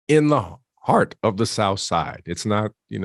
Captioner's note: none